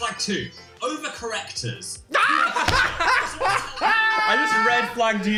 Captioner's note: both laughing